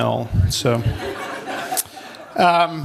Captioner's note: laughter